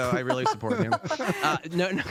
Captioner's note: laughter